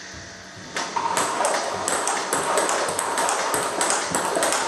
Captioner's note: ball ping pong hitting